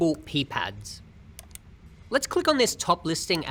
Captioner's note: mouse clicking